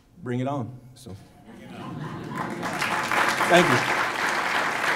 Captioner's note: laughter and applause